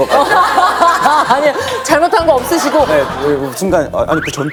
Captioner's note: hahaha